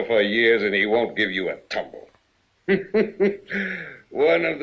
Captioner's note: laughing